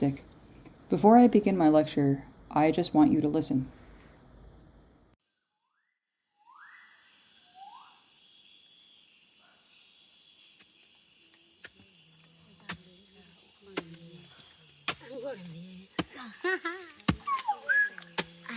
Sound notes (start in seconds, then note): 6.5 bird Calling; 10.0 chopping Sound; 13.0 whistling And Singing In Foreign Language